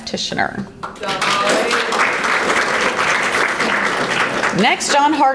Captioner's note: audience applauding